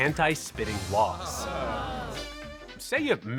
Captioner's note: crowd groans